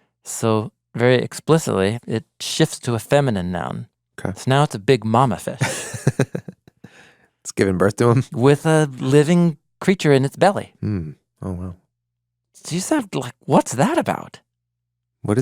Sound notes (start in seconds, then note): 5.6 chuckles